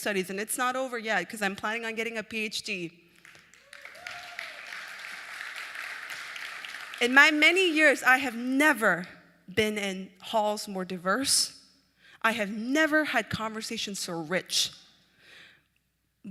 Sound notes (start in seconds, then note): 3.1 applause